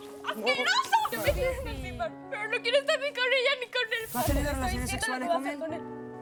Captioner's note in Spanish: Golpes